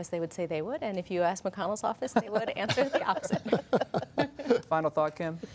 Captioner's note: laughter